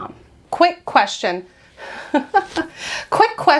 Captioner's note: chuckling